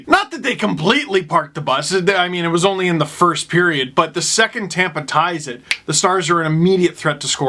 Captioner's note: snap